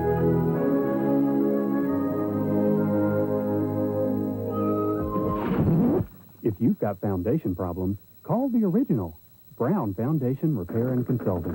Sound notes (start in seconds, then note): 4.9 thump, record scratch as music abruptly stops